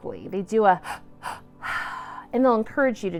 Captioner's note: inhales and exhales quickly